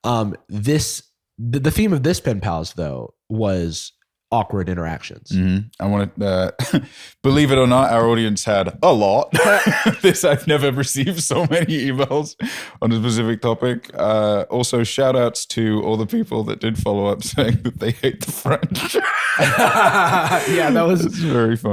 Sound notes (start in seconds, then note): 9.3 laughs; 18.2 laughter